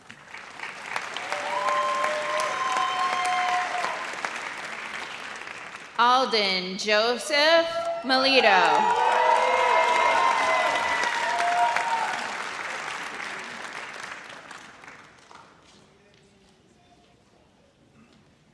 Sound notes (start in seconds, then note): 0.0 audience applauds; 9.4 audience cheers